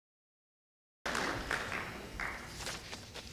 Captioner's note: sound of quieting applause